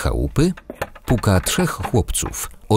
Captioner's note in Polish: stukanie